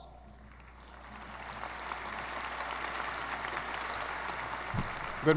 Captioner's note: audience applauding